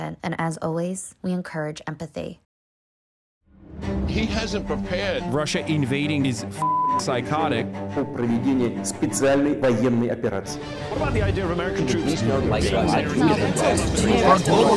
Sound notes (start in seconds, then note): 3.4 dramatic music; 6.6 beep; 7.9 Putin speaking Russian